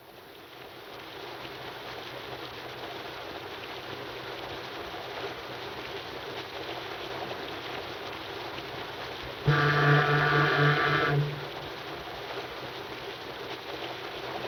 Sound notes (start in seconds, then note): 0.2 rain pattering; 9.4 horn blows